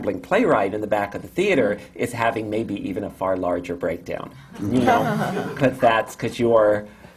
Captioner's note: laughter